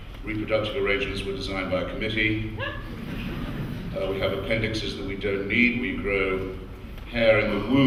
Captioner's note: laughter